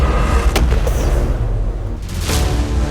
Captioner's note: shot